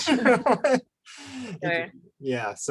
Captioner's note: laughs